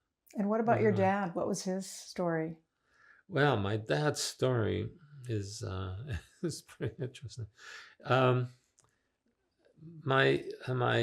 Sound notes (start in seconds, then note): 5.2 laughing